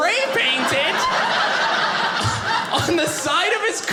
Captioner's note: audience laughing